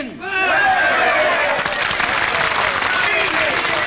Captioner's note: people cheer